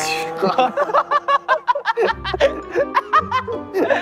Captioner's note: whining